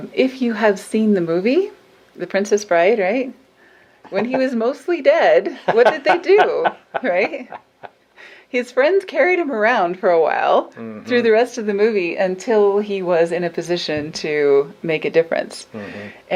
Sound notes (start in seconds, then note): 5.5 laughing